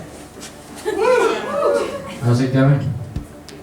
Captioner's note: cheering